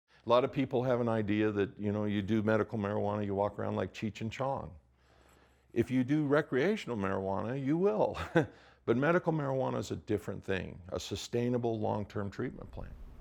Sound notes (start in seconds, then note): 8.1 laughs